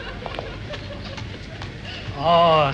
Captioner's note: speaking portuguese